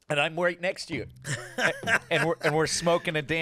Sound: laughing

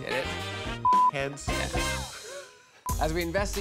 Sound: beep

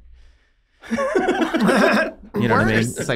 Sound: Rob laughing

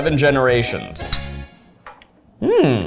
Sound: glasses clinking

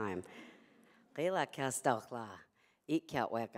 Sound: non-english speech

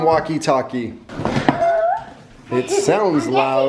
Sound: clanking

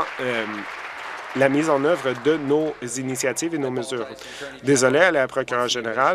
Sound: applause

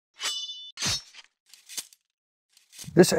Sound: sword slashing

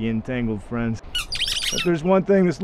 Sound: Rat King squeaking

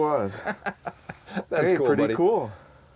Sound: laughing

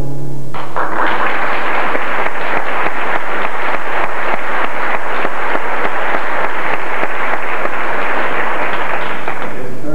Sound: applause

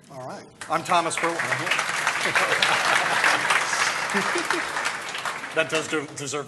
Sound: applause

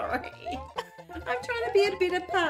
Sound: laughs

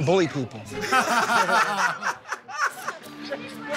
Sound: laughter

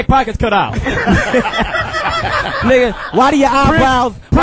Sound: all laugh

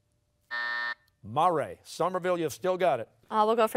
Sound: buzzer sounding

